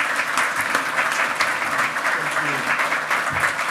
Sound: loud clapping

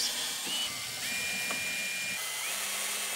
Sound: drilling

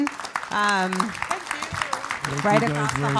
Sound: applause

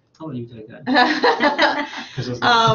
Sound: laughter

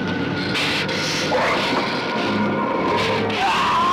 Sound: gila monster grumbling; man in suit screaming

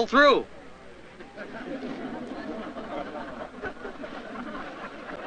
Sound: crowd laughs

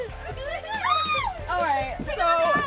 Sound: cries out

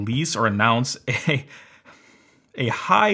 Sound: chuckles

